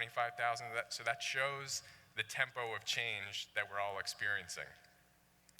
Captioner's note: none